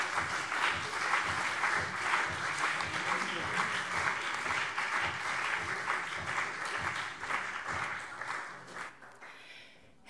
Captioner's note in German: Beifall CDU und BÜNDNIS 90/DIE GRÜNEN